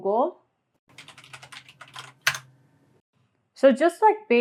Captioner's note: keys clacking